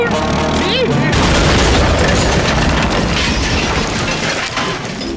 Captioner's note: crashing